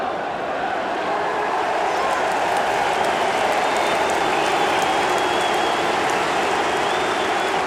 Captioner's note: crowd cheering